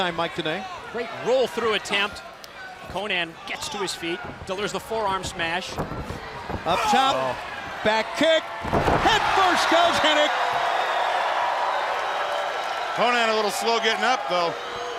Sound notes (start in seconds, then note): 10.6 crowd cheering